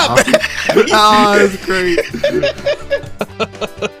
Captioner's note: laughs